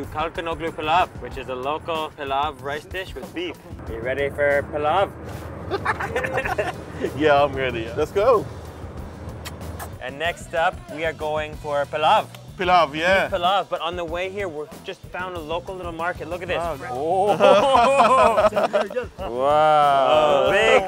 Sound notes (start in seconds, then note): 5.7 laughs; 9.2 kissing noises